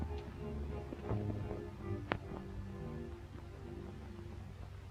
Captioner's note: rattling